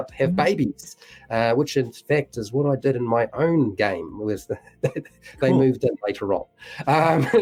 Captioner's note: laughs